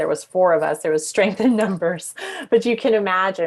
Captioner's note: laughing